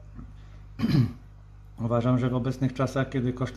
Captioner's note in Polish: kaszel